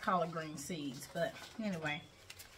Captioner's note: plastic crinkling